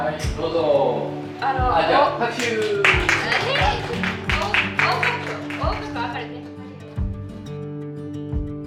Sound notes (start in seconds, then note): 2.3 applause